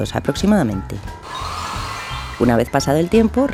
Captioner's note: dryer sound